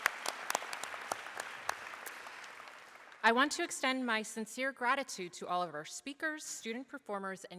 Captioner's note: applause